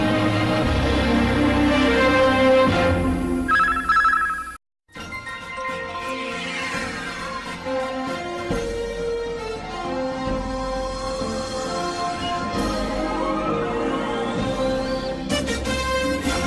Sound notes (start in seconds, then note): 3.5 communication signals dialing; 4.7 orchestral music plays